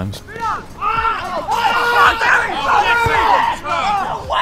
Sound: Speedo wails

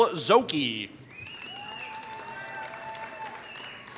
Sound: applause

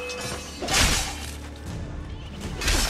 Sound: fighting sounds

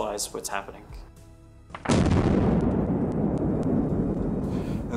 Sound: explosion blasts

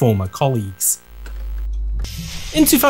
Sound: electrical Crackle; click

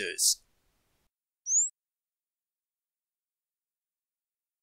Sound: birds chirping

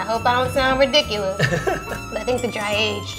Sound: laughing

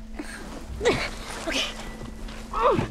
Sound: panting

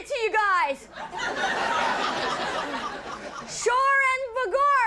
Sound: audience laughing

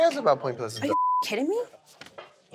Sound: beep

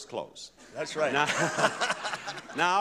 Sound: both chuckling

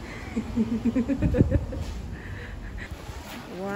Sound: happy laugh

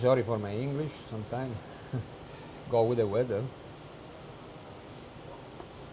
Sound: laughter

